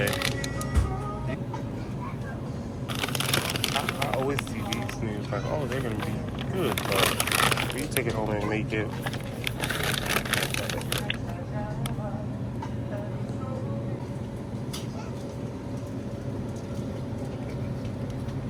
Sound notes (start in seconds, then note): 8.9 police radio